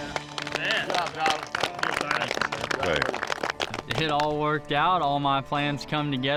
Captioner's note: all clapping